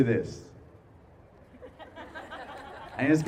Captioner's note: laughs